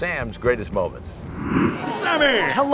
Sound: air whooshing

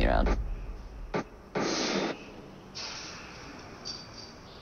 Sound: dull booming thump, spitting sound

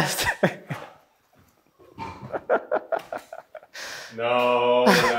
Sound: laughing

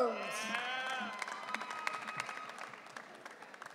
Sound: audience cheering

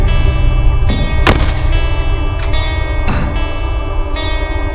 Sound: door locks

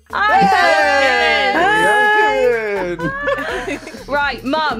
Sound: cheering

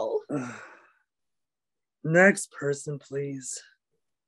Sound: sighs

